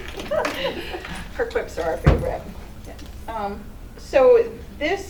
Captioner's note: laughter